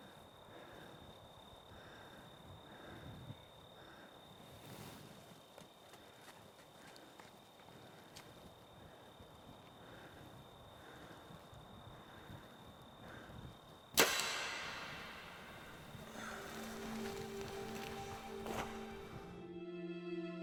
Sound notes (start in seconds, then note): 13.9 arrow shooting; 16.0 reflective music